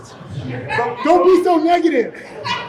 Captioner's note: laughter from audience